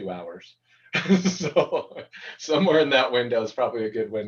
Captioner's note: laughter